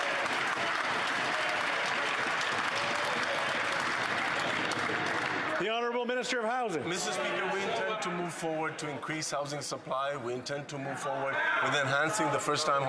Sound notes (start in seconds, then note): 6.1 applause